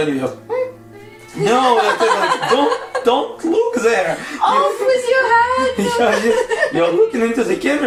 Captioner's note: laughing